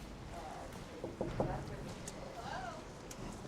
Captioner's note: door knocking